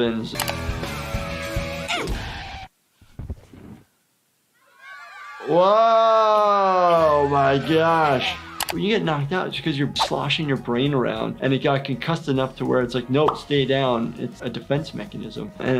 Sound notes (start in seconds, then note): 0.5 hard rock music; 1.8 Wendy grunts; 1.8 music screeches and stops; 4.6 kids shout